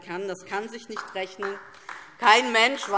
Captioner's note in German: Beifall DIE LINKE